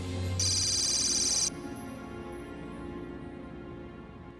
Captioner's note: computer beeps; suspenseful music